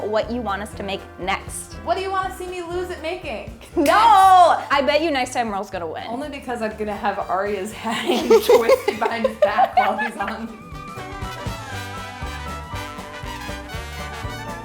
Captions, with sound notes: what you want us to make next. - What do you wanna see me lose at making? - No, I bet you next time Merle is gonna win. - Only because I'm gonna have Aria's hand twisted behind his back always on. (laughing) (upbeat music)